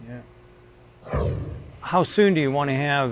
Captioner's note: whooshing